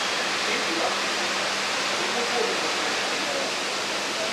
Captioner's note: quiet conversations in the background